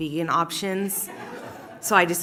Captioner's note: laughter